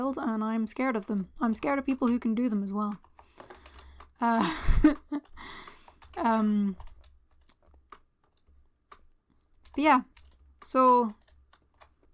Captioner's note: laughter